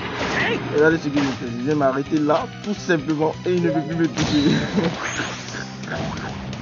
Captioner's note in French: rire